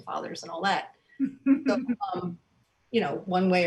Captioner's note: soft giggles